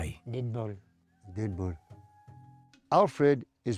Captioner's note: repeats in Filipino